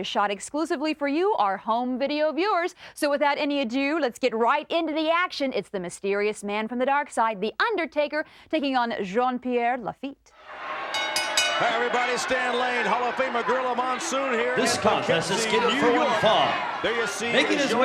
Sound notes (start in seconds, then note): 10.4 bell rings; 11.0 audience chattering